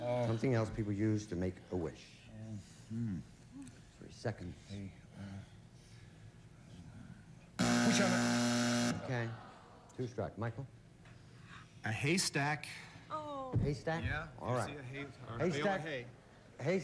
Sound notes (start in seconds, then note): 7.6 buzzer